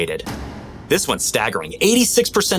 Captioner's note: echo bangs